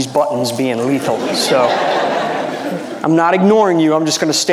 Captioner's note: audience laughing